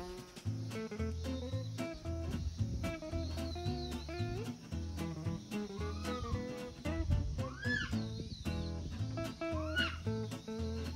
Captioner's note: baby monkey shrieks